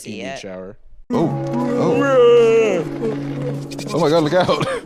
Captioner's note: fake-yawns